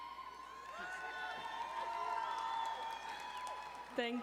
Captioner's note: audience cheering